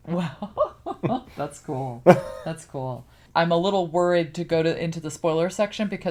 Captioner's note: laughs